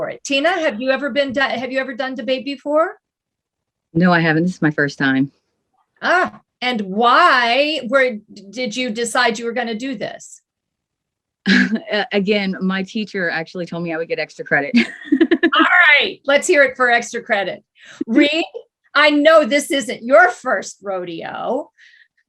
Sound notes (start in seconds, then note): 11.9 chuckles; 14.8 laughs